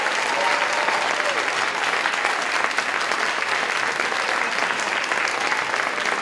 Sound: applause, cheering

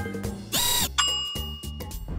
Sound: dinging

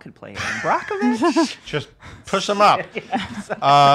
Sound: laughing

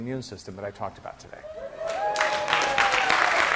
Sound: class cheering; class applauding

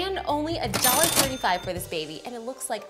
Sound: cash register dings

